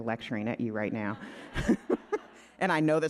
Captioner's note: laughing